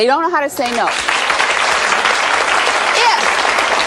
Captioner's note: audience applauding